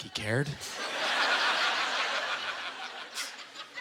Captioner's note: audience laughter